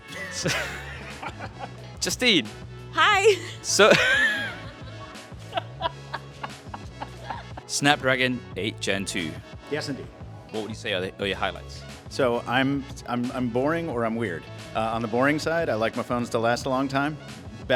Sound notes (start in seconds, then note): 0.0 laughing together; 4.6 wheezes